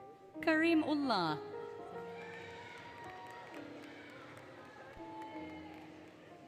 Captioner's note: applause, Cheering, Music